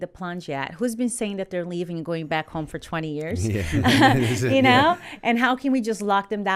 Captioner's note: chuckle